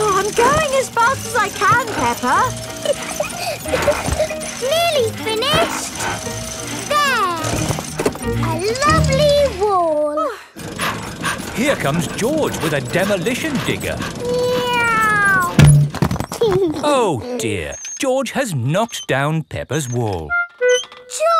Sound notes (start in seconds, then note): 2.8 peppa laughing; 10.6 daddy pig panting; 14.4 george imitates airplane; 16.6 george giggles